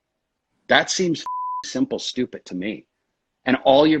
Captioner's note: beep